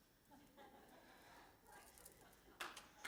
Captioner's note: laughter